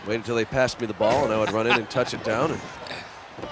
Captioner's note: chuckling